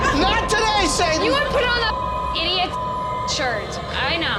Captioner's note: beep